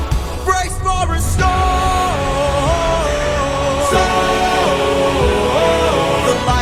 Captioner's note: storm